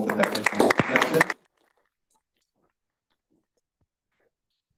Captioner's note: applause